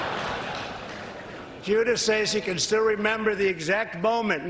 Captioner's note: applause